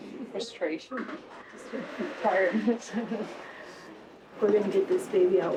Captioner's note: laughs